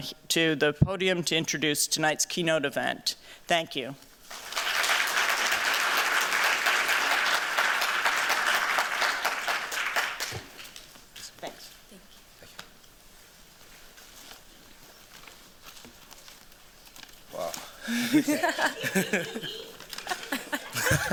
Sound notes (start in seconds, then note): 4.2 applause; 17.8 chuckling